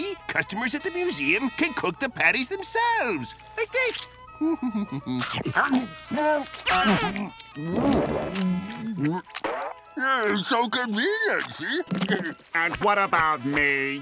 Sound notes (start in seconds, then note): 4.4 humming; 11.4 chuckles